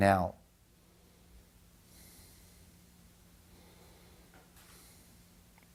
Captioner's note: inhales and exhales